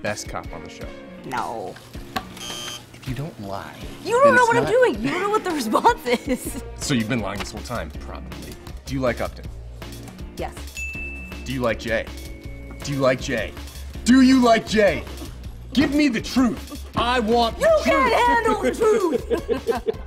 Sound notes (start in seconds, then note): 2.3 buzzer; 17.8 laughter